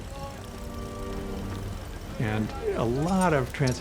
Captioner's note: winches ticking